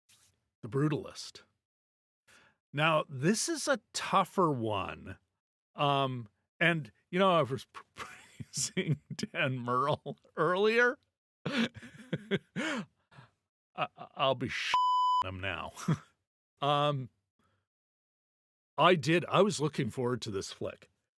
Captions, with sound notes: The brutalist. Now, this is a tougher one, and you know, I was praising Dan Merle earlier. I'll be sh (beep) them now. I was looking forward to this flick.